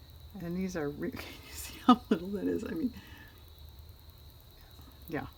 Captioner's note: laughs